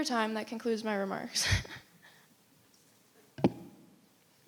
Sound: chuckles

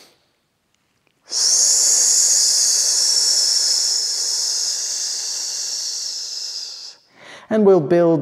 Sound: big inhale; long 'S' exhale

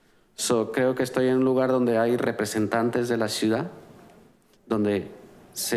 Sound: conversing in foreign language

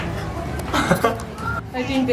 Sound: dad chuckles

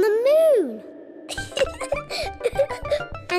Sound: laughs

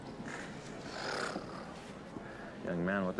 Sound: Sam sighs

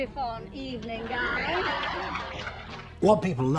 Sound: audience laughs and cheers

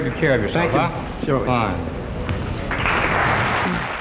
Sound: audience applauds

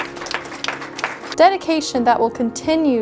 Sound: clapping

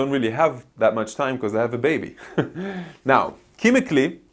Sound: laughs

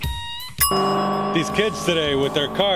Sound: timer chiming

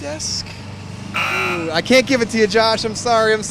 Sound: buzzer

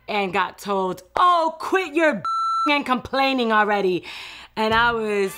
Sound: beep

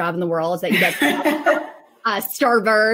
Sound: laughs

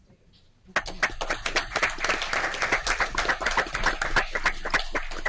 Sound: audience applauds

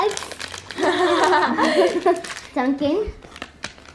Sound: laughs

